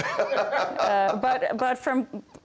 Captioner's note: laughter